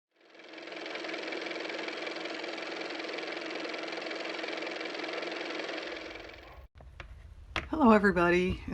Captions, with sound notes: (car motor) hello everybody